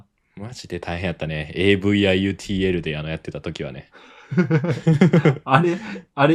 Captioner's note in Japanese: 笑い